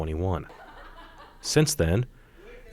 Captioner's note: attendees laughing